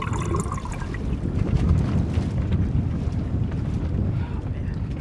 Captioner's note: wind blowing